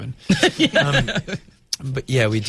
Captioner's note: Uzo and interviewer laugh